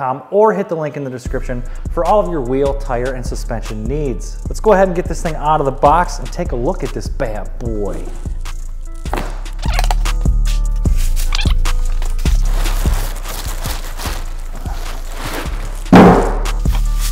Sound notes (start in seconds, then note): 12.6 plastic ruffling; 15.8 box hitting floor